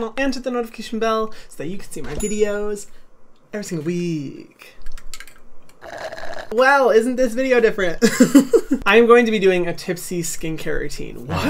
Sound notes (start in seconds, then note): 2.2 bell ringing; 5.3 ice clinking; 5.6 slurping; 7.8 laughing